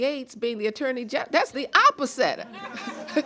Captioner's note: chuckling